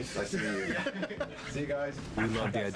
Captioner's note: laughter